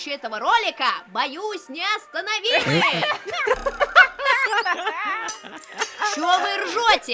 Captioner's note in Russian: НПС смеются